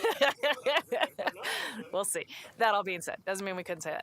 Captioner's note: laughter